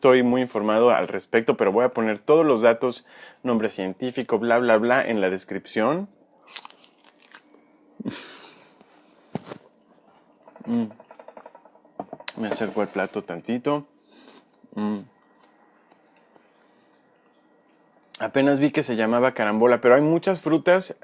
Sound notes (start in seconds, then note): 11.1 chomp; 15.5 chomp